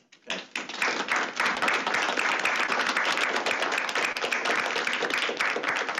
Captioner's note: crowd clapping